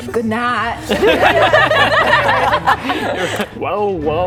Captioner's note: laughing